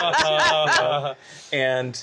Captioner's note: laughter